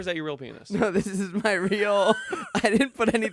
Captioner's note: laughs